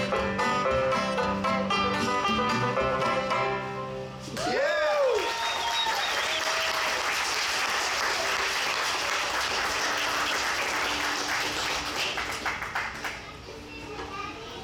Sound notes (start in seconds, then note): 4.4 audience cheers; 4.4 audience applauds